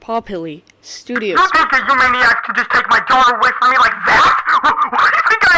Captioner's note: on phone